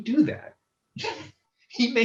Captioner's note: laughs